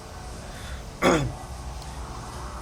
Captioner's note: clears throat